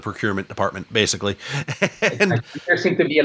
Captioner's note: laughter